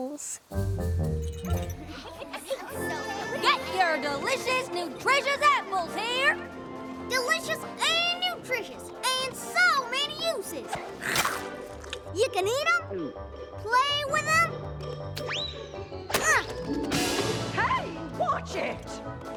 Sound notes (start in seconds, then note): 10.0 chomp!; 16.8 crash!